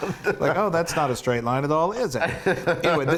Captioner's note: laugh